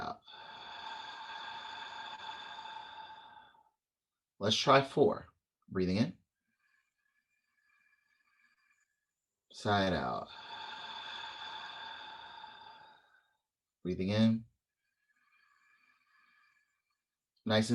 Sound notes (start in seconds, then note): 0.0 exhale; 6.6 inhale; 10.0 exhale; 15.0 inhale